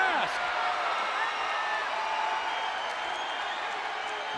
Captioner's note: crowd cheering